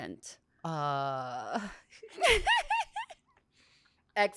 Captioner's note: laughs